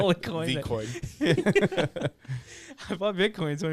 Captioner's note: laughing